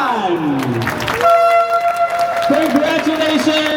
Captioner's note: train horn